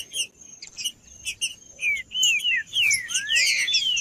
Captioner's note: trinca ferro cantando